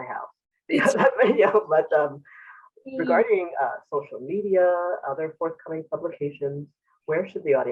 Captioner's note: laughs